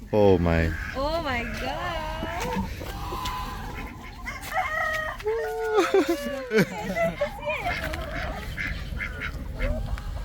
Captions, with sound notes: Oh my Oh my gosh... [rooster crows]